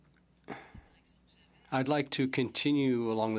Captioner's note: speaking French